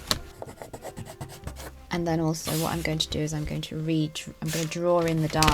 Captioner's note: pencil scratches